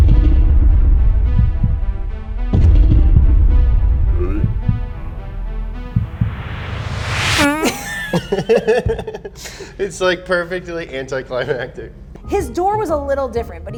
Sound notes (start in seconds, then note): 0.0 intense suspenseful music; 7.5 laugh